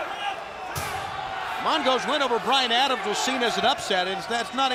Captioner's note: crowd cheering